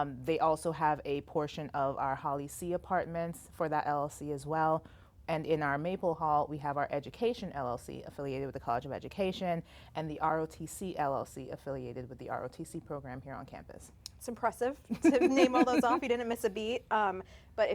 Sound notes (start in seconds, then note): 14.9 laughs